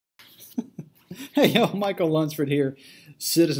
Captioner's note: laughs